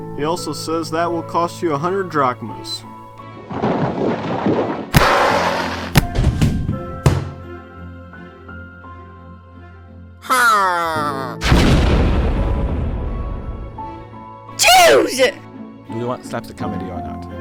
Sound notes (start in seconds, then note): 3.4 rumbling and hitting sounds; 11.4 explosion